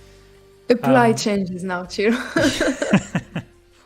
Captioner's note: laughter